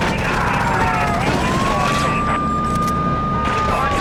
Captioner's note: car engine roaring; screaming